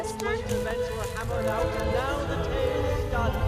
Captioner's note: voiceover